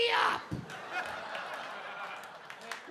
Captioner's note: audience laughing